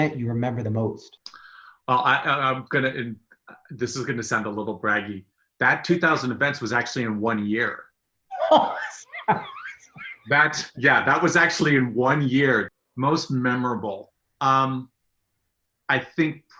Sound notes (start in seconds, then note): 8.3 laughs